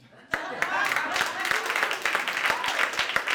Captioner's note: audience applauding